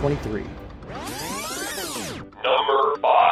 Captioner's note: electronic zipping